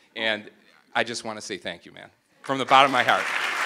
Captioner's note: applause